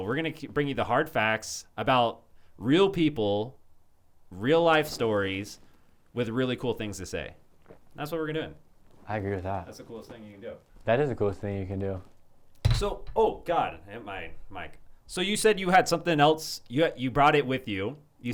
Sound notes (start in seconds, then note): 12.6 bottle clanks